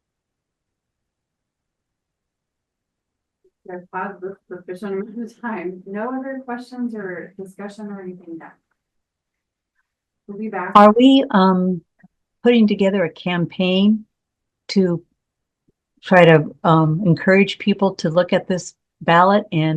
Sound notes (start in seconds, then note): 4.5 speaks faintly